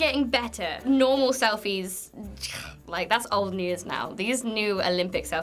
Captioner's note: scoffs